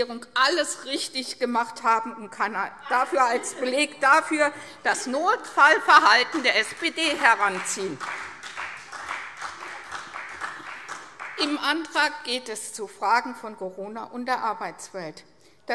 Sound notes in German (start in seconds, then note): 7.8 Beifall CDU